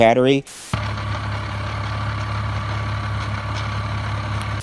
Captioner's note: engine noise